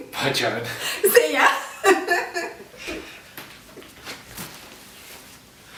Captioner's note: laughs